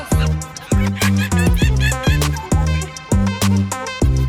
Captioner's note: apes and monkeys screaming